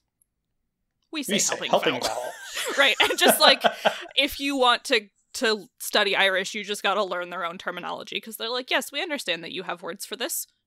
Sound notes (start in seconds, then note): 1.4 both laugh